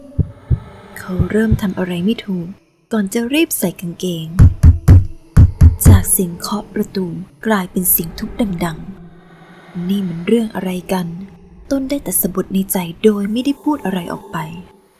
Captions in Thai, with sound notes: เขาเริ่มทำอะไรไม่ถูก ก่อนจะรีบใส่กางเกง จากเสียงเคาะประตูกลายเป็นทุบดังๆ (เสียงทุบประตู) นี่มันเรื่องบ้าอะไรกัน ต้นได้แต่สบถในใจโดยไม่ได้พูดอะไรออกไป